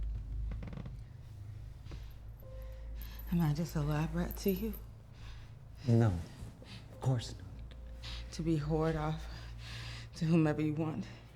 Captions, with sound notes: (wood creaks) (solemn music) Am I just a lab rat to you? - No, of course not. - To be whored off to whomever you want